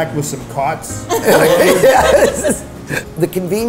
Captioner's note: laughing